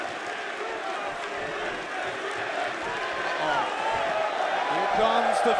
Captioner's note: fans chanting